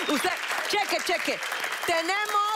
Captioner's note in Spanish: Risas